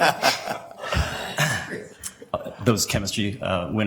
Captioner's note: sniffs